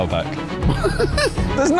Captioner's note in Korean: 웃음